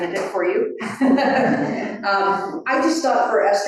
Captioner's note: all laughing